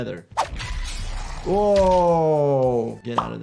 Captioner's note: blades clanging